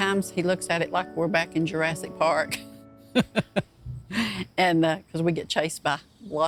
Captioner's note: laughing